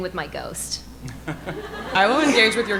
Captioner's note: audience laughing